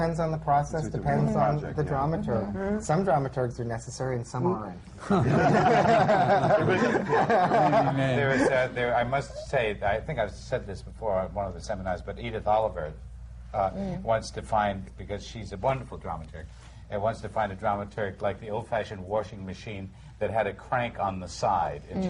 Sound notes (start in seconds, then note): 6.9 laughter